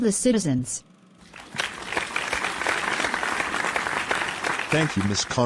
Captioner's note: applause